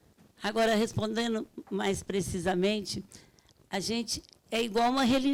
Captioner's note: speaking Portuguese